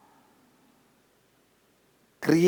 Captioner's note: hindi